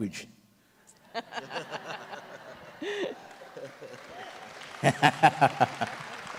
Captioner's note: audience laughs and applauds